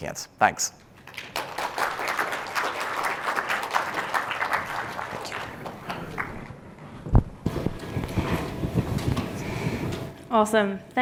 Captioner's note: applause